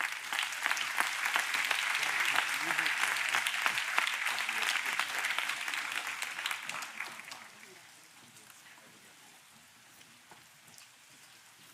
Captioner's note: applause